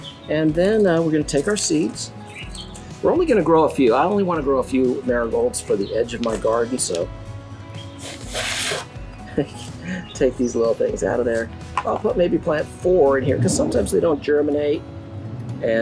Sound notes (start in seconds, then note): 7.9 air blowing; 9.2 chuckles